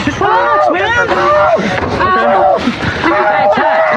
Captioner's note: screreaming